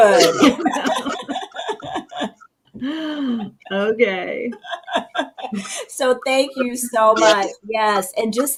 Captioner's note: laughing